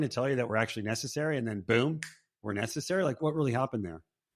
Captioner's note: snaps finger